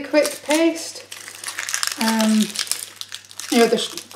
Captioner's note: onion skin scronches